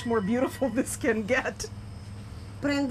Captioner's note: speaking Italian